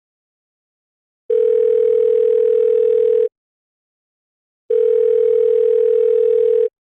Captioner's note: dial tone